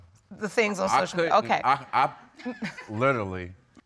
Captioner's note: chuckles